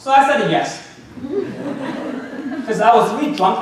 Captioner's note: audience laughing